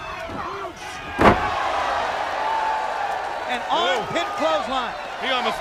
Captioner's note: crowd chatter; crowd cheering